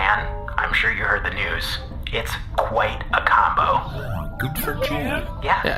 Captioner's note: happily